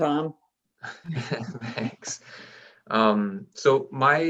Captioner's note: chuckles